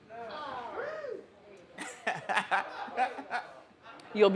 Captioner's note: audience groans; man laughs